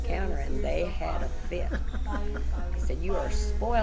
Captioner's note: laughs